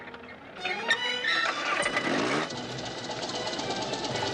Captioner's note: engine starting